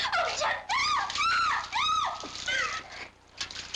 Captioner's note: screams